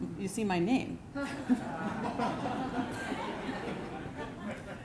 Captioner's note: laughter